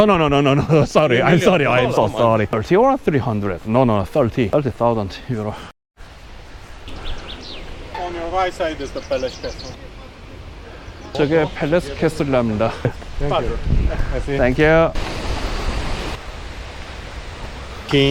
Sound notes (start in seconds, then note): 6.6 birdsong